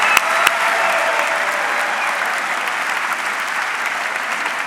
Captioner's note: audience clapping